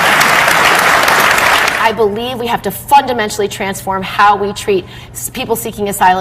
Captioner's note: applause